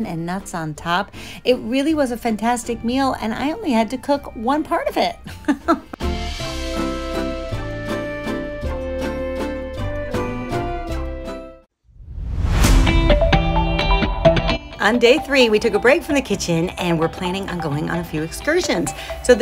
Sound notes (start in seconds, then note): 5.2 laughs; 6.2 gentle music; 12.5 upbeat music